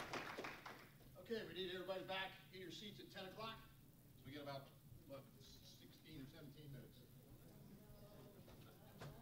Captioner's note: applause